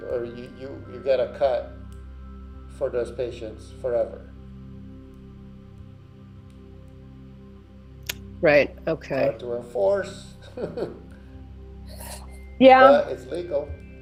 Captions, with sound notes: or you get a cut for those patients forever. - Right, okay. - Hard to enforce. (laughs) - Yeah. - But it's legal.